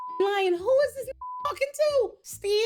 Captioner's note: beep